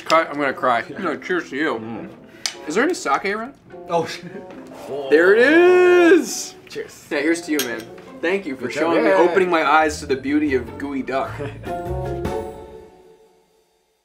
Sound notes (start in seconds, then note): 11.2 laughs